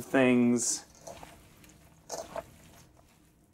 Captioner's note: crunching